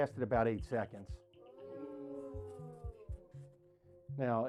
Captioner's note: class: OOHHH